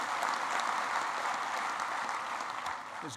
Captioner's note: applause